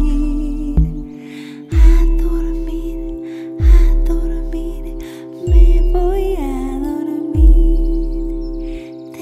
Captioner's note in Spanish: Susurrado